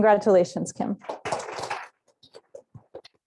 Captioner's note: applause